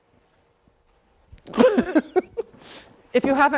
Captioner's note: laughing